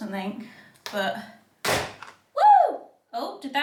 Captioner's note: parts slamming